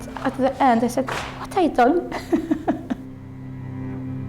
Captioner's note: laughs